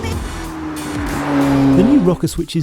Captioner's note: upbeat music; car rumbling